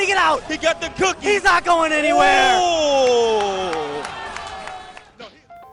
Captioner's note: applause